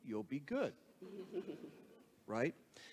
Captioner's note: audience laughs